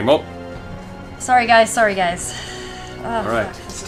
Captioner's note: sighs